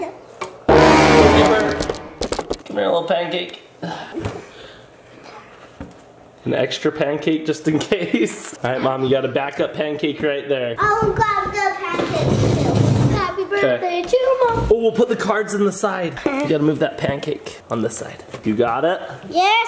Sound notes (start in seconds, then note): 0.7 sinister music; 8.5 laughs